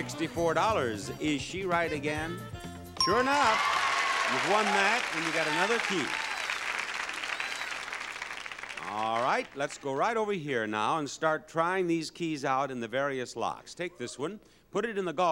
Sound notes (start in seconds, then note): 3.0 bell pings; 3.1 audience cheering